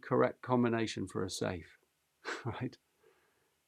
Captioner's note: chuckles